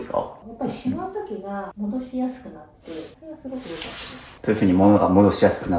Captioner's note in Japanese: 鼻息